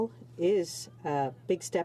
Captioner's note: speaking in french